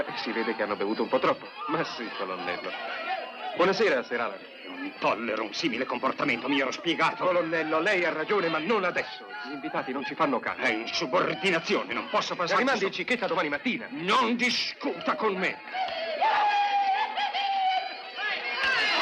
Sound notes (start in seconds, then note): 16.3 whooping and hollering